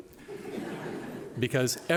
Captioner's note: laughter